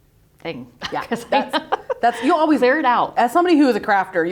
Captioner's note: laughing